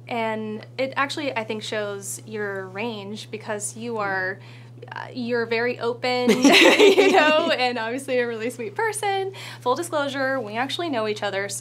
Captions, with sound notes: And it actually, I think shows your range, because you are, you're very open, (laughter) you know, and obviously you're a really sweet person. Full disclosure, we actually know each other,